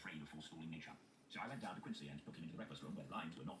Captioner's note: Dracula audiobook playing